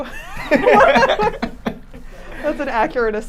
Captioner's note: laughing